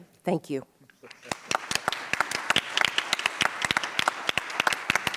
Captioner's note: audience applauds